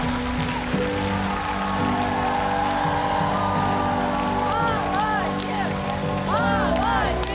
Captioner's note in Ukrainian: оплески